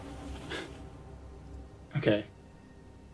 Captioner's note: Chris scoffs